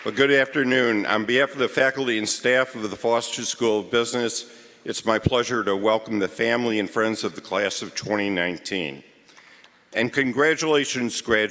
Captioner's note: cheering & Applause